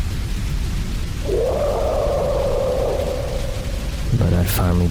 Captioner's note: roars echo in the near distance